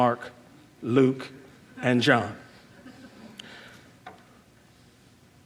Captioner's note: crowd laughing